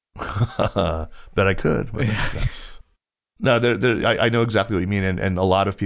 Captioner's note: laughs